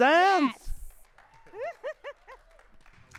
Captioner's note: audience applauding and cheering; laughs